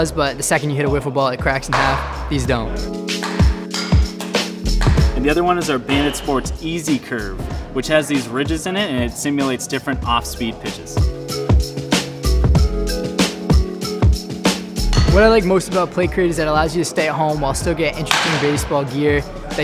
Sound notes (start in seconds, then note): 3.1 balls cracking